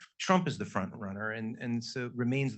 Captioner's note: none